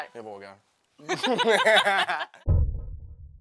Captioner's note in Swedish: Skratt